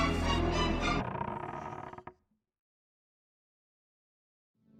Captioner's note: creak of the floor